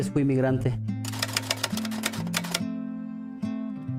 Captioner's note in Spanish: typewriter keys noise